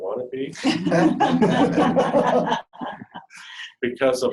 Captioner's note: laughing